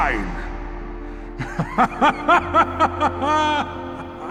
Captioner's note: maniacally laughs